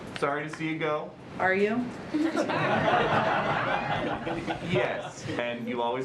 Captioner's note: laughter